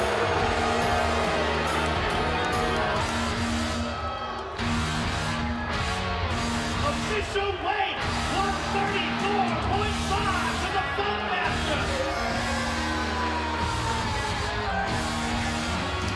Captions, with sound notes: (hard rock music) (audience booing) Official weight, 134.5 for The Funkmaster. (screams)